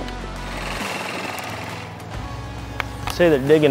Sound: ATV engine rumbles

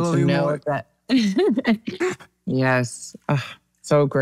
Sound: laughs

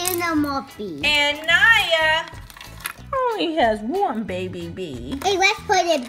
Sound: voiceover

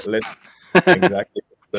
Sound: chuckles

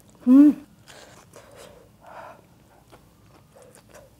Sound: chewing

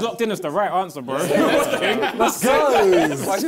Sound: laughter

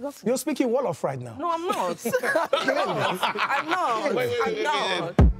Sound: everyone laughs

